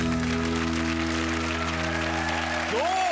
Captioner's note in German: Applaus